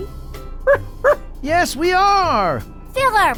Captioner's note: barking